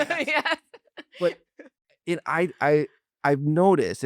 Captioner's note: laughs